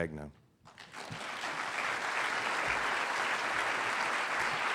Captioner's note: applause